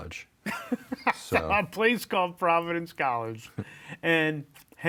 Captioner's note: laughs